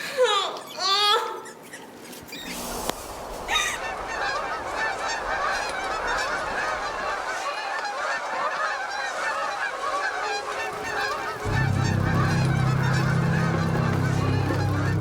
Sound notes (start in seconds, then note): 4.3 birds squawking